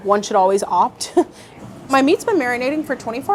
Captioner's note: chuckles